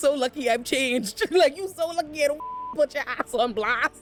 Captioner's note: beep